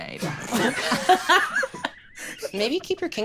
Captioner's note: all laughing